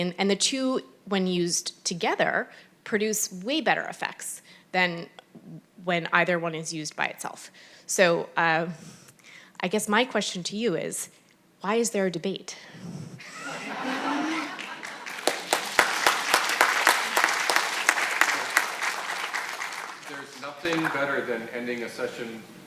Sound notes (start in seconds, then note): 13.2 audience laughs; 15.9 audience applauding